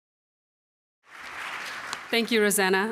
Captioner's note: applause